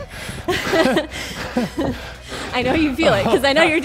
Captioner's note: laughs